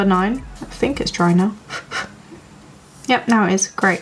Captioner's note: blows